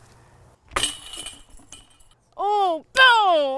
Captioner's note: chains jangling